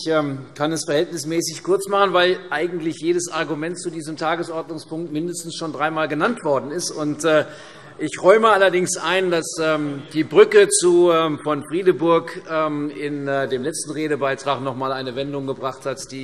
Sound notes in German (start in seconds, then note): none